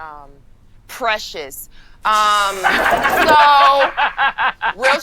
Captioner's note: group laughing